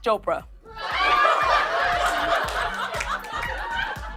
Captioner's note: laughter